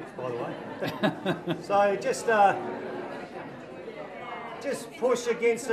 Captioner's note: audience laughs